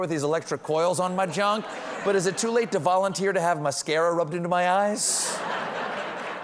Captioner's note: laughter